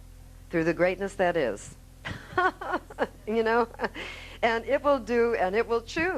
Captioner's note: laughing